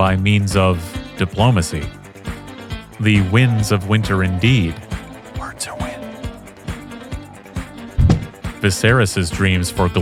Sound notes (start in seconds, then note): 4.9 whispered